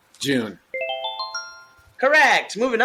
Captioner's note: twinkling sound